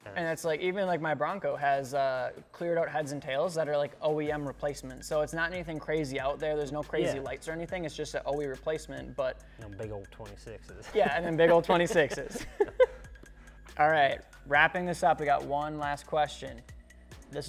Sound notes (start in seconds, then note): 12.6 laughing